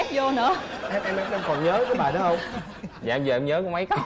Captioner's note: laughing